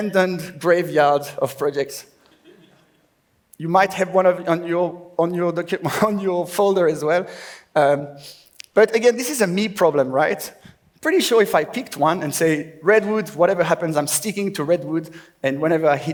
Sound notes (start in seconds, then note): 4.2 laughs